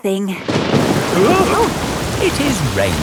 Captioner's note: thunderclap; parents gasp